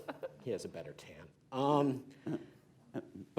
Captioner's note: laughter